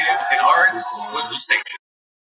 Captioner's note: cheering